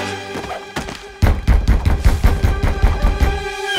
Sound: banging

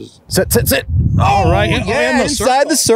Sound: yelling

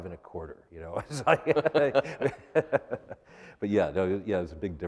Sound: laughter

